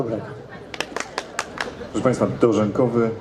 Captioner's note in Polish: oklaski